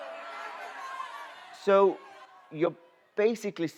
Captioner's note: booing and shouting continuing